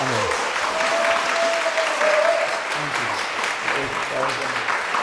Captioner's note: audience applauds and cheers